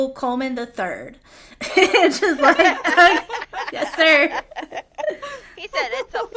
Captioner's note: laughter